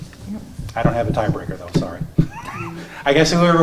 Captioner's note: laughs